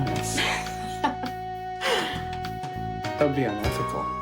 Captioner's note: Ginger laughing